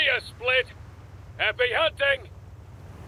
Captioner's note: waves Lapping; Warthog Revs